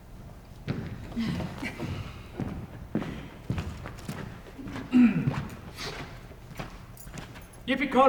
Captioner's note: footsteps entering